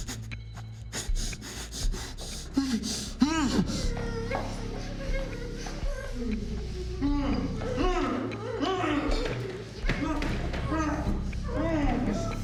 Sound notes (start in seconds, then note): 0.0 victims groaning; 0.2 Alex panting; 3.0 dramatic music; 5.2 victims groaning; 9.7 dramatic music